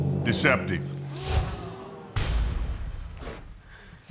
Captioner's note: audience gasping